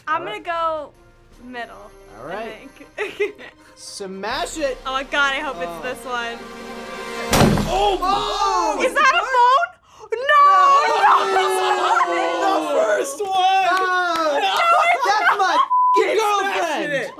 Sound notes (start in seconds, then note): 7.2 loud smash; 10.1 gasps